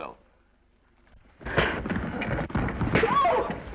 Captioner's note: elbow thuds; fist thuds